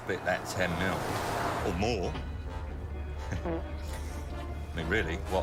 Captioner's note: man farts